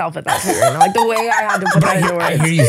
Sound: laughing

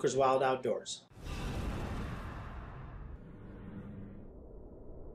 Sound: whoosh

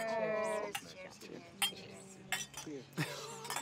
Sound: glasses clink; Patrick laughs

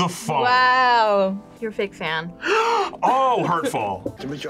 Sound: gasps

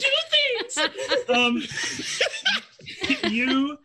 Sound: group laughs

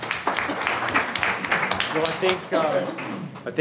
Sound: audience applauding

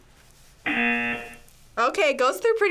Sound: buzzer

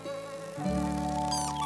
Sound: wings flutter

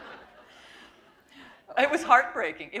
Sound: laughter

